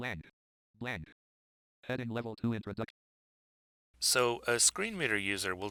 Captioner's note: synthesized speech